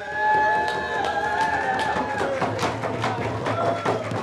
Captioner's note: cheers and applause